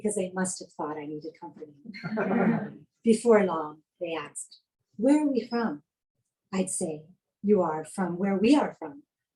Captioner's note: laughing